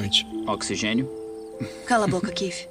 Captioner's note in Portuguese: risos